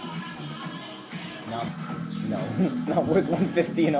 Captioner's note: casual chatter